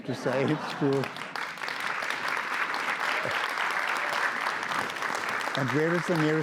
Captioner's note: audience laughs and applauds